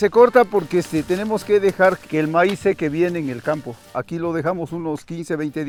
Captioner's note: speaking in foreign language